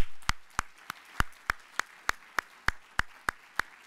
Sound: applause

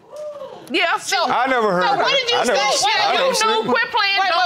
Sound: stammering

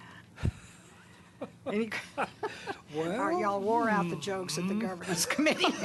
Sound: laughter

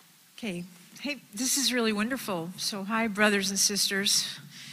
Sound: none

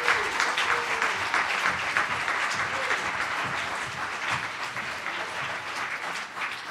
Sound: applause

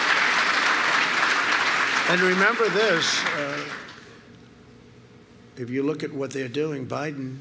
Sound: applause

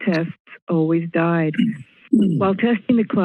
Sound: clears throat

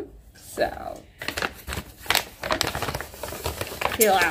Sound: bag crinkling sound

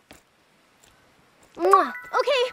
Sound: kiss

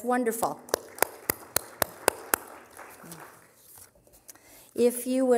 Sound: applause

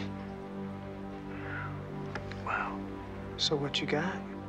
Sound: exhales

